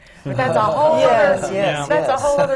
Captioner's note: groans and agreement from the panel